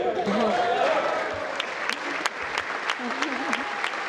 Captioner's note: congress applauding